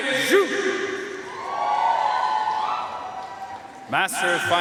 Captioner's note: audience cheering and applauding